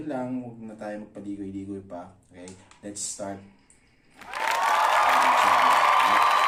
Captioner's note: applause